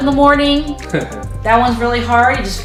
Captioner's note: laughter